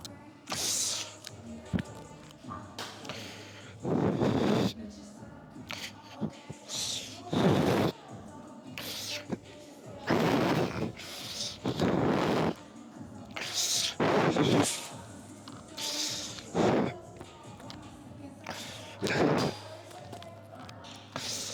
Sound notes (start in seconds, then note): 0.1 grunts; 4.8 laughs